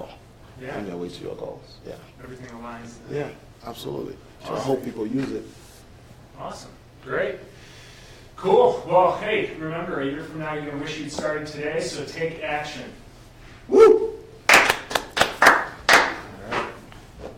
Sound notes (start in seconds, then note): 14.4 clapping